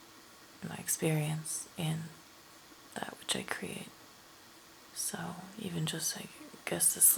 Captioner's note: none